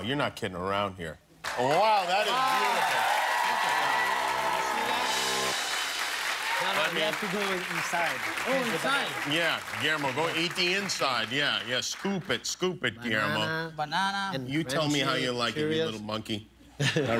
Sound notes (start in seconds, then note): 5.7 cheers and applause